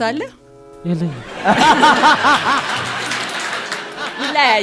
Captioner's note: laughter